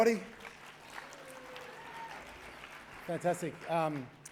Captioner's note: cheering, applause